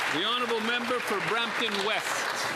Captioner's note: some Applause